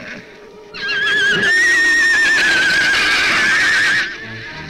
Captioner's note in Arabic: صهيل الحصان صهيلاً هائجاً; صراخ الزبابة; موسيقى أوركسترالية مشؤومة